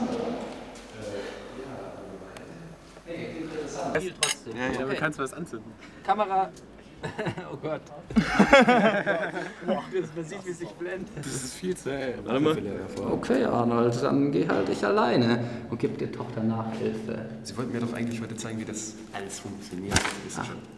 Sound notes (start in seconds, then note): 8.0 laughs